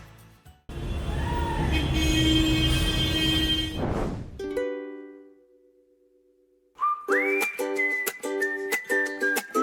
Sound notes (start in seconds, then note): 0.7 horn honking; 7.0 lively music